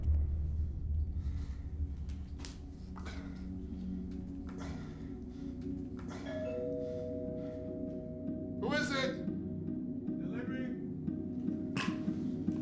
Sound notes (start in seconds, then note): 6.3 door bell rings